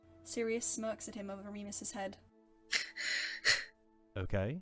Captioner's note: Remus scoffs